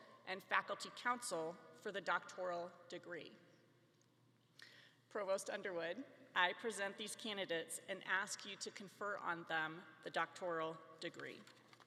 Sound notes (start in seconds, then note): none